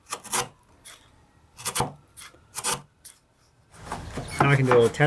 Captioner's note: tool scrapes